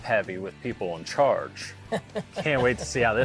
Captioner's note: laughing